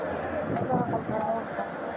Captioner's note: speak in Foreign language